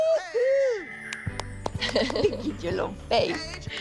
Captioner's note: laughs